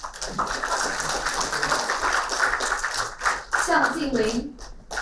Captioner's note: applauding